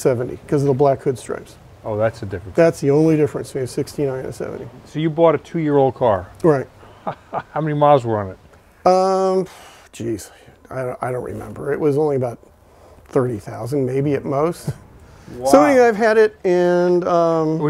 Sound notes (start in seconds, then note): 6.7 laughing; 14.5 chuckling